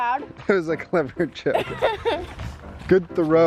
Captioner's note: man laughs; girl laughs